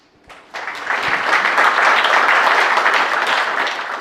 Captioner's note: clapping